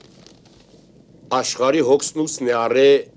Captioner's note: rustle